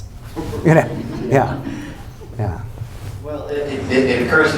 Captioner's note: laughter